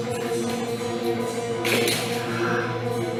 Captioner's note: crutches clatter